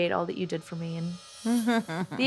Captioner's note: chuckles